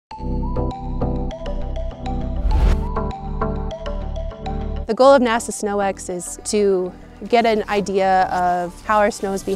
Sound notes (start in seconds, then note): 1.4 upbeat music; 2.3 swoosh